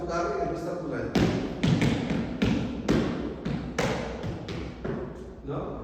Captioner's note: stomping feet